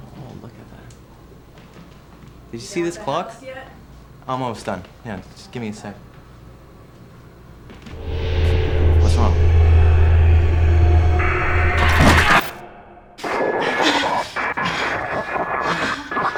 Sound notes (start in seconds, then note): 11.3 scream; 13.1 static; 15.4 moaning